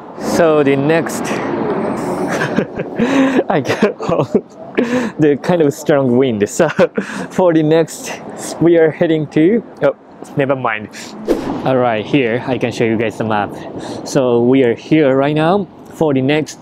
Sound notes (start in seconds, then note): 2.0 laughs